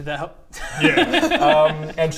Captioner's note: unconvinced giggles